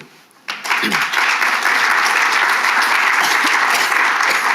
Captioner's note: attendees applauding